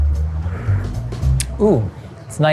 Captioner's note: slurping